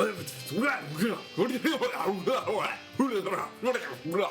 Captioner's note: speaking alien language